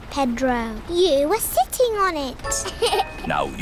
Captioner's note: laughs